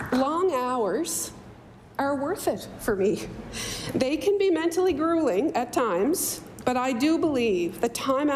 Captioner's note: applause